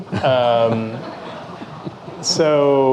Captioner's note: audience laughing